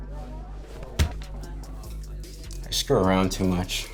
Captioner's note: light thudding